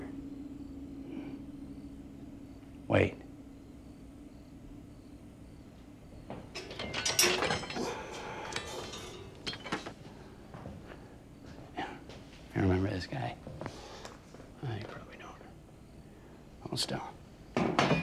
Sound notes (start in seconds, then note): 0.2 crickets chirping; 6.3 metal clanging; 7.8 Tyler sighs; 17.6 metal clunks